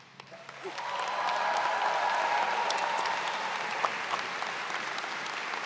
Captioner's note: audience cheers